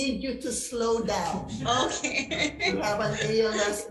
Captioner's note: laughs